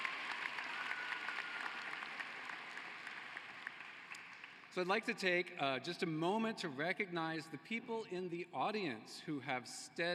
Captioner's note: cheering and applause